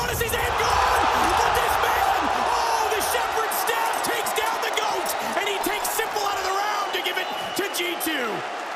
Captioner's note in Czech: Potlesk